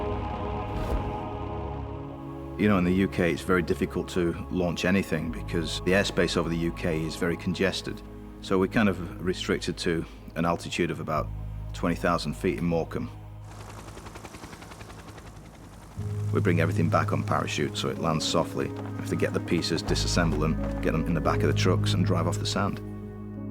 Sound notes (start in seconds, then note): 0.2 gentle music; 13.4 helicopter whirring; 23.3 gentle poignant music